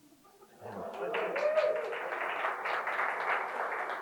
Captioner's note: crowd cheers